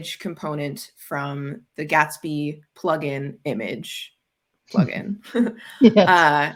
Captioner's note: chuckles